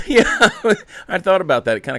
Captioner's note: laughing